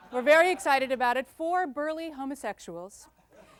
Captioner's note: light laughter